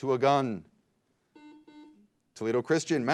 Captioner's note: beep